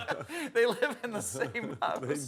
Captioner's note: laughter